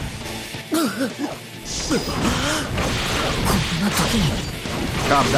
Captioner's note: cough!